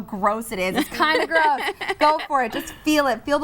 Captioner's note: laughs